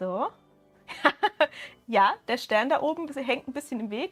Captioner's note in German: Gelächter